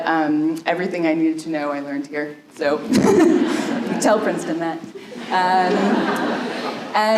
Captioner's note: laughter